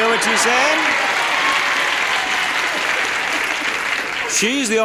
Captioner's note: audience applauding and cheering